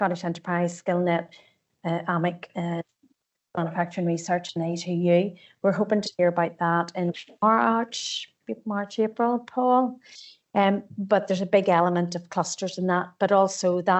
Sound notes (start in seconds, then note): 7.2 audio distorts 55.44